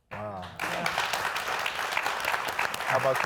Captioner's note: audience clapping